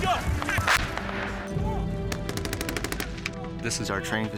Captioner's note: gunshots